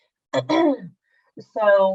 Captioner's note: clears throat